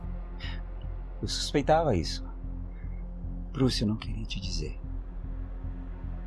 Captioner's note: Carlos speaks in foreign language